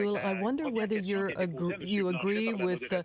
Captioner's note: speaking French